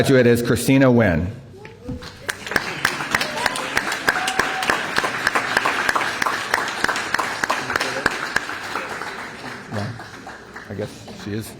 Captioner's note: applause